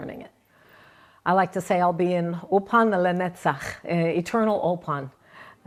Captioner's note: speaking in Hebrew